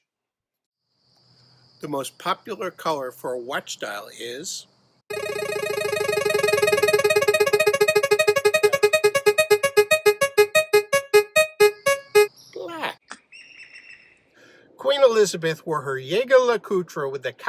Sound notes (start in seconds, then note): 8.0 spinning game wheel sound